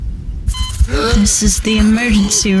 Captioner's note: heart monitor beeping, man gasps